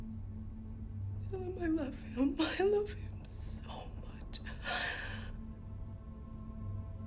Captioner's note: sobs